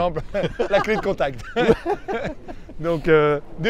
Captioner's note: laughter